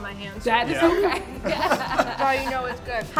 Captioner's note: laughs